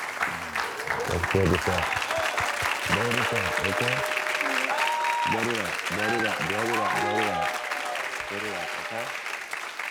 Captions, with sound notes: (Karamo whispers to Tiffany) (audience applauds) - Let it out. Blow it up. Blow it up. Okay?